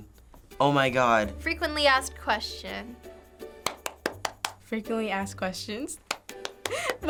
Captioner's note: claps; claps